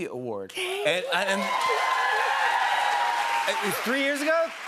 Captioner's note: cheers and applause